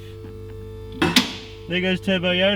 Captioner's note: car lifter clicks